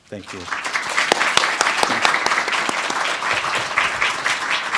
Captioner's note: crowd applauding